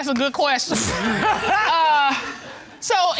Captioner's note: laughter